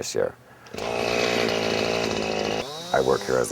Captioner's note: hedge clipper noise